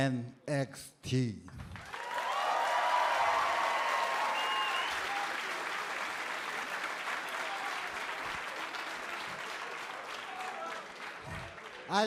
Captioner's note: cheers and applause